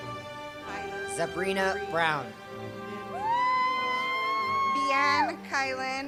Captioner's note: cheers